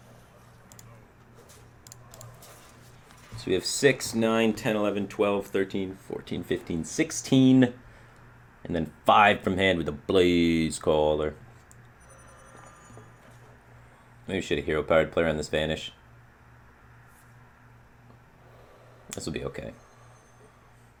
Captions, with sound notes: So we have [COUNTING] 16 damage! And then 5 from hand with the BLAAAZEcaller. Maybe we should have Hero Powered, play around this Vanish. This will be okay.